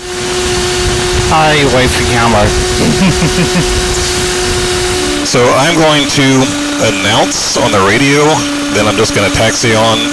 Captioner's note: laugh